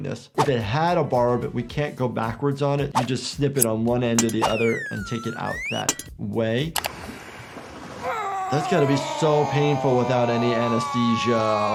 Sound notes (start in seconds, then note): 8.0 Steve-O groans